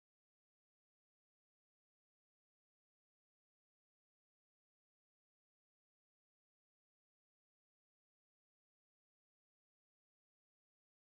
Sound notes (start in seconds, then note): none